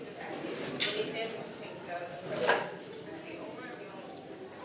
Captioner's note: speaking faintly